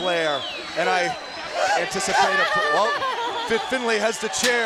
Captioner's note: Daffney laughing